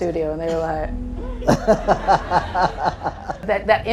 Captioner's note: audience laughing